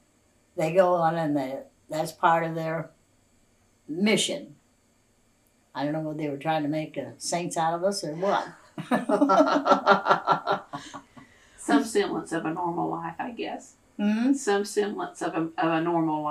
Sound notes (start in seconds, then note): 11.3 laughter